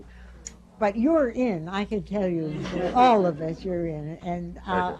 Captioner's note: laughter